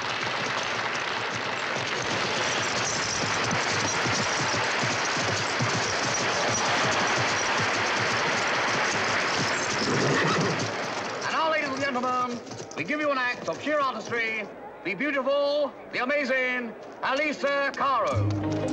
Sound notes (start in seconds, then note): 0.0 audience applauds; 10.2 horse snorts